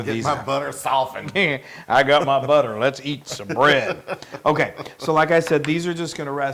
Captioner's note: laugh